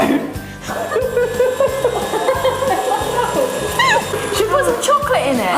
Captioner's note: ladies laughing